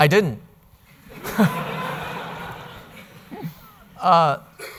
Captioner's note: audience laughing